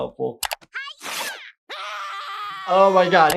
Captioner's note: painful scream